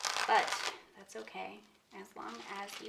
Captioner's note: masking tape rustles